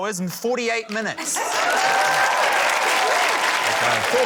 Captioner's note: laughter; cheering, applause